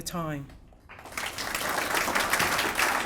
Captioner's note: applause